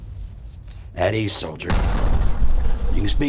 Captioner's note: bomb rumbling